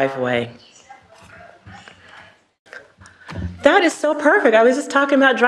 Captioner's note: cellphone navigation system speaks